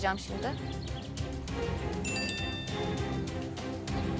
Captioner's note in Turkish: Bildirim Sesi